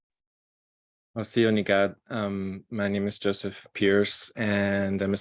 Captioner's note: speaking in foreign language